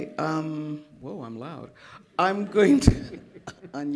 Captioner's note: laughter